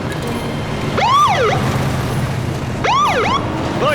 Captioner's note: police siren